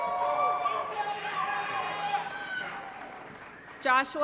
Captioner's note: applause & Cheering